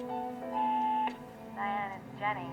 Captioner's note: machine beeps